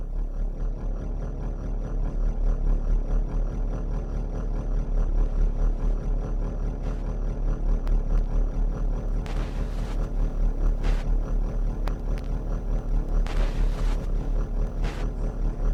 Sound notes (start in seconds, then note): 0.6 quiet white noise; 9.5 audio distortions gradually increasing in volume